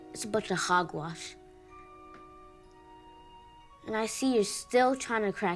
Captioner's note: none